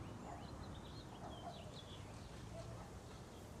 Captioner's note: dog barking